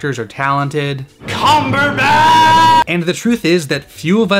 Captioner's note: dramaicatic yelling